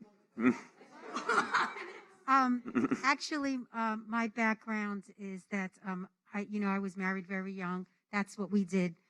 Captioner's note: laughter